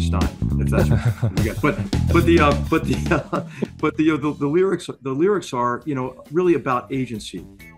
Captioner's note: laugh